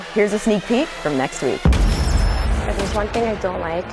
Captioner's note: thundering boom; upbeat music